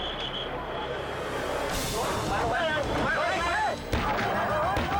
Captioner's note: dramatic music; all shouting; gunshots firing